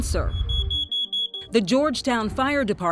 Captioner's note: detector beeps